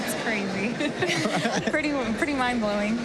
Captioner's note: laughter